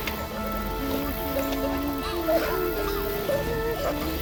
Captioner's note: woman humming